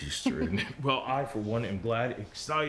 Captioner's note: Rachel chuckles